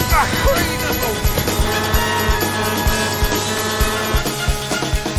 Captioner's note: shouting; horn honking